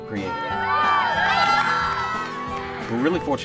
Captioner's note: cheering